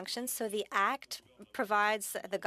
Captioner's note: speaking French